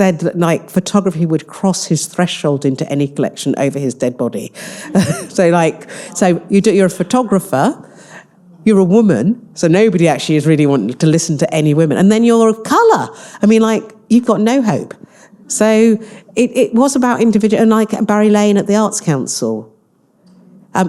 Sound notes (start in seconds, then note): 4.8 all laughing